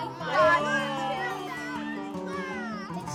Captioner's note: exclaiming